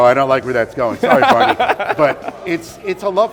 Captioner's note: laughs